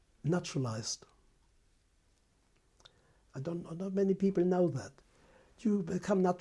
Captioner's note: pauses for 3 seconds